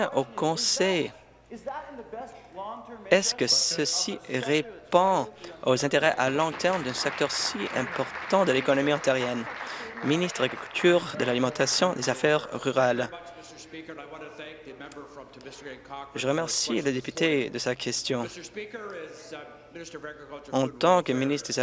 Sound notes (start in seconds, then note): 11.2 applause